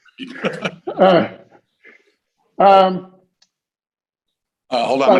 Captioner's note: laughter